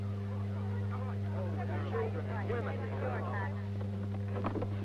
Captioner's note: people murmuring